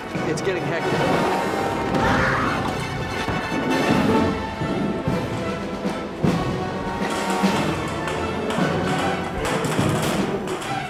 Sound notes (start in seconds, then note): 1.9 explosives booming; 1.9 upbeat music; 8.2 gun firing